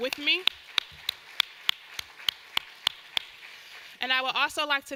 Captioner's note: claps; audience applause